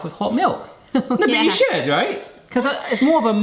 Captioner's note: laughs